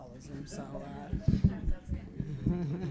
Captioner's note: laughing